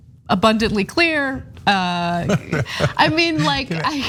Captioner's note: laugh